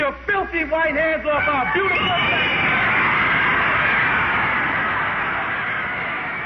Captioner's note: audience cheering